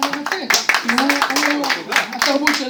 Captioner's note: applause